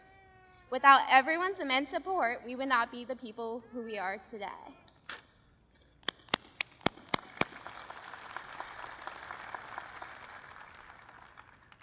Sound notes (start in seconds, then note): 6.1 applause